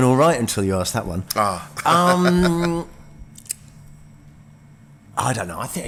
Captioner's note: laughs